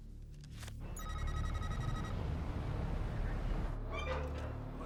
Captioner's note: text beeping; gate creaking